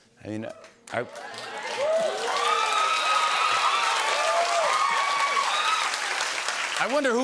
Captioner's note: cheers and applause